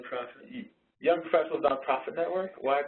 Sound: voiceover

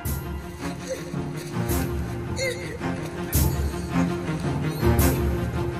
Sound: grunting

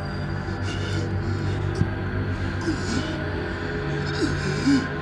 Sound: Marcus panting and groaning

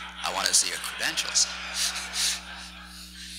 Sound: laughs

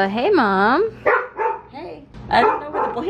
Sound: dog barking

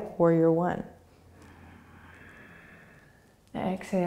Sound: inhaling

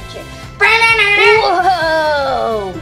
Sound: assistant making electric guitar sound

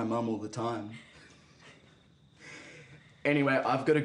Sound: giggling

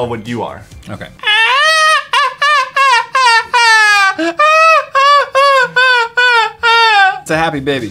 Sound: screechy Baby Noices

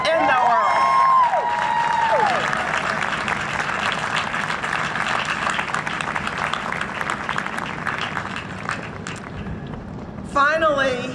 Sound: cheering and Applause

